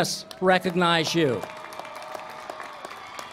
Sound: applause

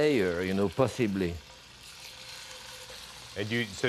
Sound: sizzling

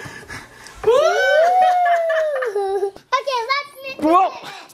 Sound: family cheering

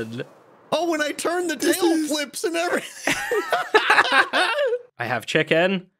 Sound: laughs

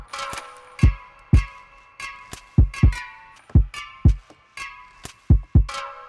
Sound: metal clanking and beats drumming

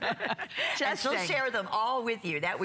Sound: laughter

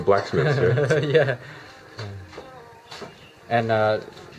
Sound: laughter

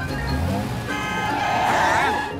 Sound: honks

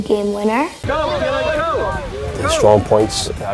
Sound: crowd shouting

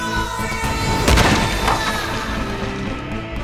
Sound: explosion

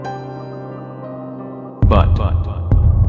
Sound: echo

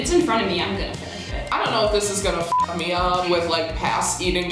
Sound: beep

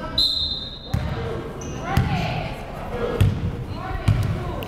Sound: whistle blows

